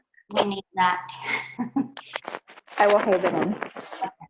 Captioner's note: chuckles